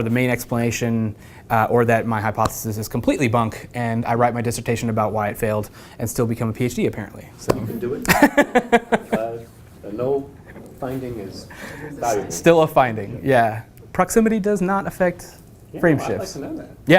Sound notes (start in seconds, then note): 8.0 laugh